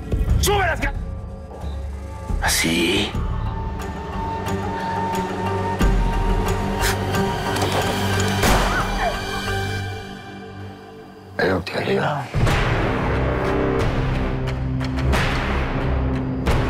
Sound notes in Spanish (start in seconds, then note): 8.4 Disparo; 8.6 Grito